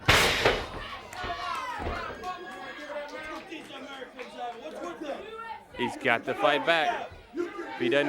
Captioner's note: crowd chatter